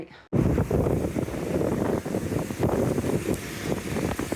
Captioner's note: wind, rain and motorbike engine